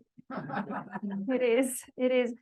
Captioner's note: audience chuckling